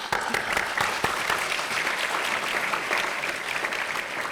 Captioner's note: everyone applauding